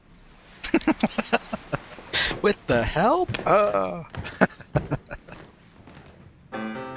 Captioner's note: laughing